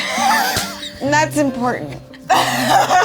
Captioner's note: laughing